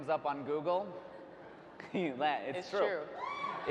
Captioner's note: laughs